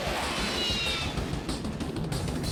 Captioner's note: jets whoosh